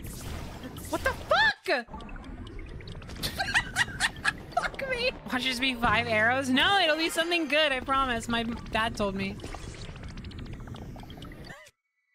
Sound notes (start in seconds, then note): 3.2 laughter